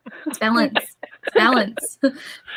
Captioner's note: chuckles